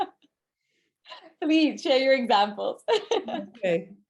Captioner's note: chuckles